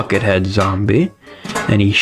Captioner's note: inhales Oxygen